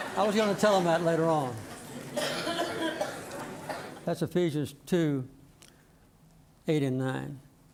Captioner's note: laughter